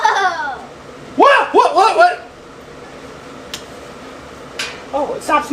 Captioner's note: assistant laughing; mechanic stammers